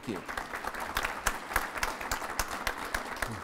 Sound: applause

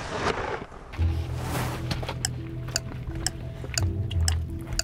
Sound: clock ticking

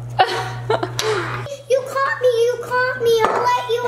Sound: laughs

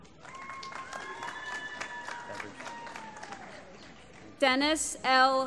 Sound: applause

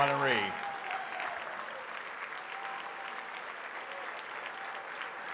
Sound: audience applauds

